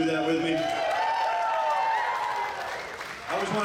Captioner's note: audience cheers